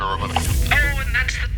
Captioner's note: phone click